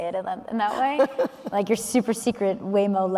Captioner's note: laughing